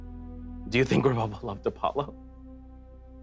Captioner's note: scoffing